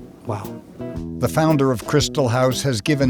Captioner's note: voiceover